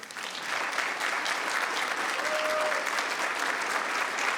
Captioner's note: members clapping